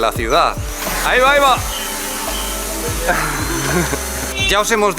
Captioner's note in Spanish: Edit: Suenan los motores del dron